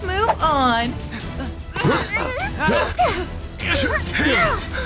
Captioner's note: all grunting